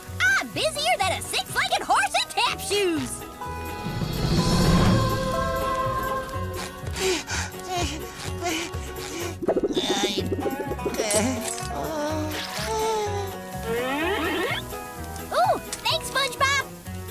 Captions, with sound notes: I'm busier than a six-legged horse in tap shoes. [gasping] Oh! Thanks, SpongeBob.